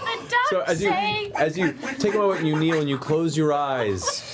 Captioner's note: quacking